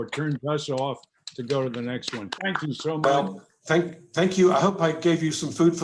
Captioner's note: claps